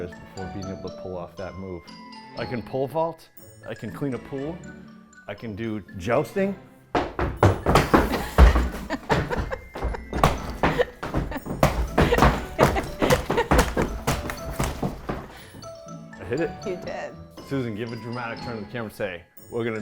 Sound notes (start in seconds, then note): 7.0 feet stomping; 8.1 laughing; 11.1 staff pounding